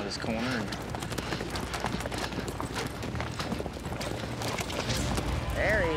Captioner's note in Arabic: ضربات حوافر